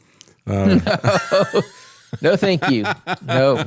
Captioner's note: both Laughing